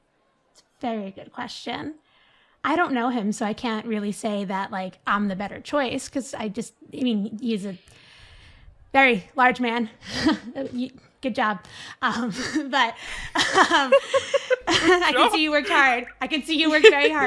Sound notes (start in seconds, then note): 10.1 laughs; 13.3 laughter; 13.4 laughing